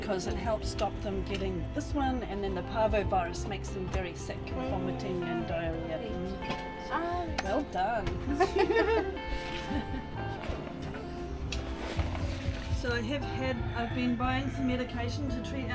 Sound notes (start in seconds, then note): 8.2 laughing